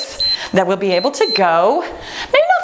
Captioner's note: timer beeps